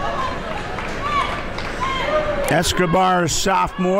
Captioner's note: crowd talking